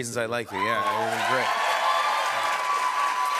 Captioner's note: cheers and applause